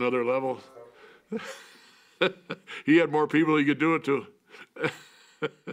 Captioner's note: laugh; laugh